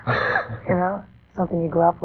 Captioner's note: laughing